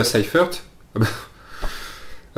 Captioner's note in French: rires